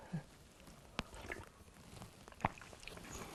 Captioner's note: drinking